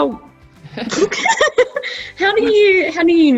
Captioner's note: both laugh